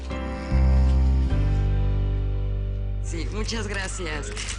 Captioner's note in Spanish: Ronquido